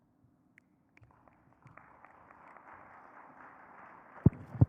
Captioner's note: audience clapping